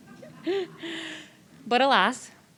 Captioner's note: audience members and laughing